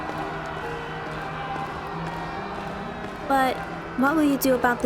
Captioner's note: large Crowd Cheer